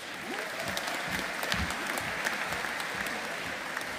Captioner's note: audience applauding